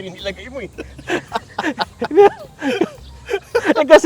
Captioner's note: laughing